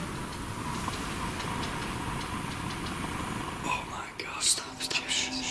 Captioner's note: chairs squeaking